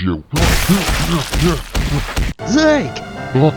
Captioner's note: coach elson grunting